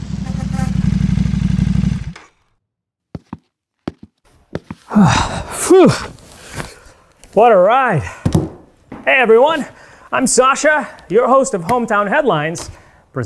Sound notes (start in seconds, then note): 0.0 motorbike engine revving; 0.0 horn honking; 4.4 boots thumping